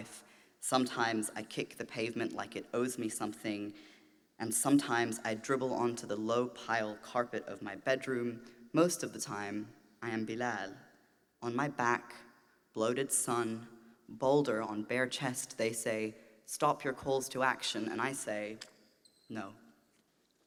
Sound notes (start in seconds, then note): none